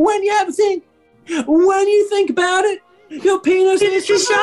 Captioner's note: falsetto; falsetto – joins in